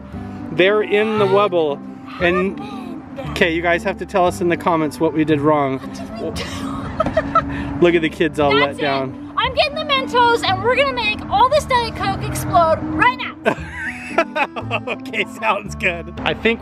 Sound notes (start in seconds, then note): 5.8 laughs